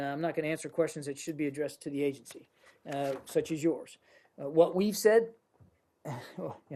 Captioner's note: laughter